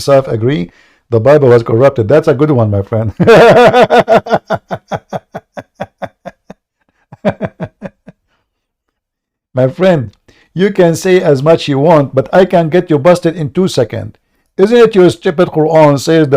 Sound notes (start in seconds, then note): 3.1 Ketawa